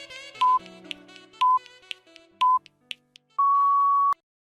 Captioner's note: beeping